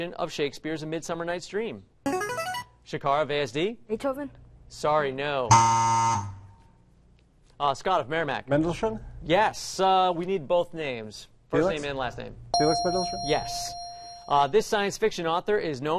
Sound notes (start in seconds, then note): 1.6 buzzer plays; 5.2 buzz; 12.5 ding